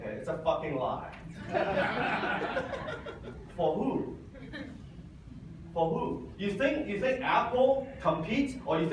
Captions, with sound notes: Okay. It's a fucking lie. (audience laughs) For who? For who? You think Apple competes,